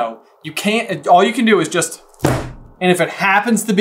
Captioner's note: thud